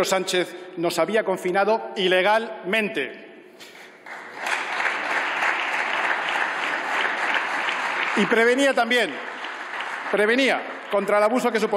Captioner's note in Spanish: Aplausos